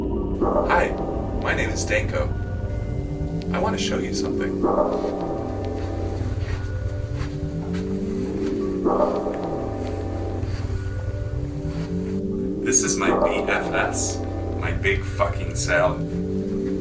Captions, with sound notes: Hi, my name is Danko. I want to show you something. [distorted voice repeating] Stop. This is my B-F-S, my big fucking salad.